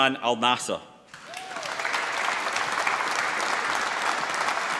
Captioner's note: applause